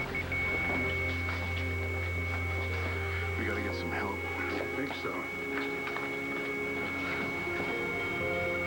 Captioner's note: monitor flatlines